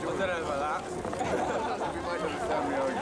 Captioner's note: journalists laughing